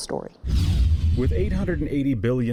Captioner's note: rapid whooshing